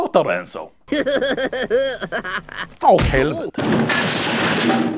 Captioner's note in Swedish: skrattar